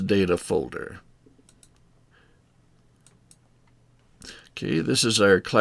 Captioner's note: mouse clicking